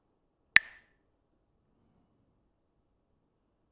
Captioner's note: clacks the sticks